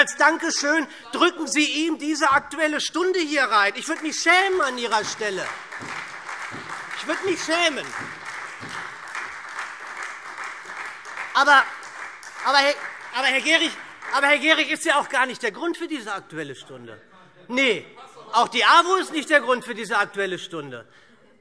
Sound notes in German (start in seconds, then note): 5.6 Beifall SPD, Freie Demokraten und DIE LINKE